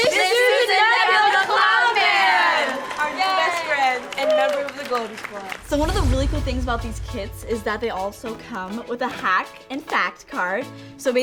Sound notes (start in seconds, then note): 1.5 applause